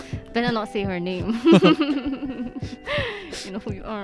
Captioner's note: evil laughter